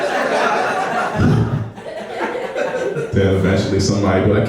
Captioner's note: laughing